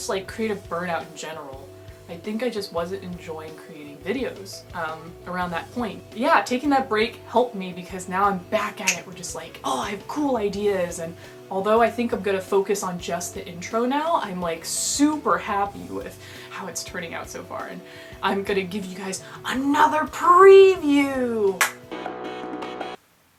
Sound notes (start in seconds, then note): 21.4 clap